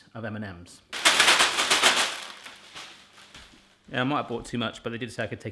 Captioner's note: clattering